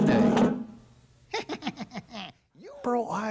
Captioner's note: evil laughs